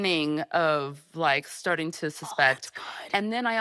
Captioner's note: whispering